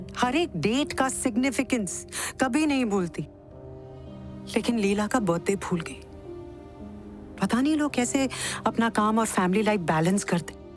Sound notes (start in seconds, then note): none